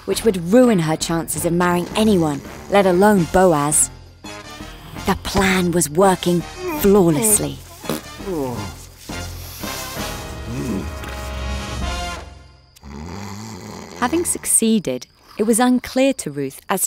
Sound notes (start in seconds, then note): 7.7 Boaz farts; 12.7 Boaz snoring